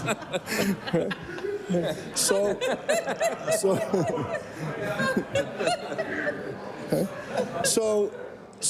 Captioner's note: laughter